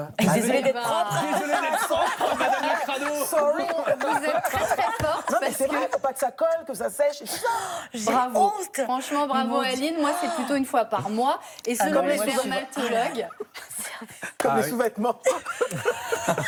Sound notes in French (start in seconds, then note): 0.3 rires; 15.2 rires